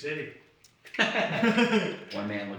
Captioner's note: laughs